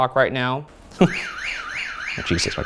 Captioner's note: alarm blaring